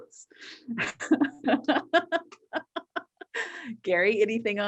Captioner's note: laughs